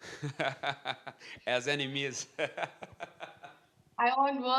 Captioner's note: laughs